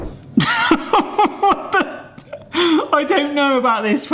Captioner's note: laughs